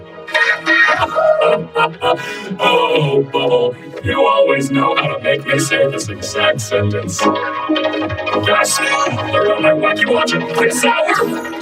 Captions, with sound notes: [both laughing] -Oh, Bubble, you always know how to make me say this exact sentence. [goofy cartoon sound effects playing] -Gasp! An alert on my WackyWatch at this hour?